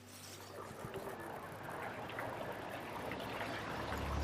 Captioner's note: gentle music; car whirring